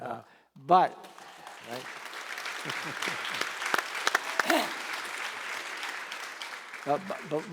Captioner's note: applause